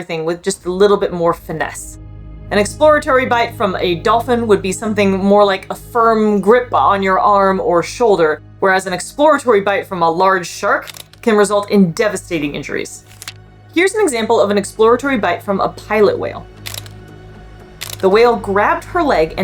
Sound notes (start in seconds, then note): 13.1 background music; 16.6 background music; 16.6 camera click sounds